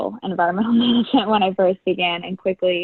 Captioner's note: laughs